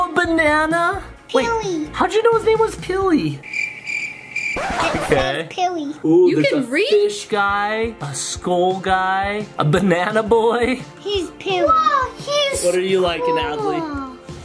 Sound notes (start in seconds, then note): 3.4 crickets chirping; 4.4 tape scratching